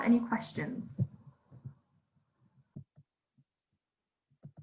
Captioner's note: microphone thudding